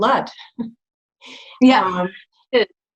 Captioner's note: giggles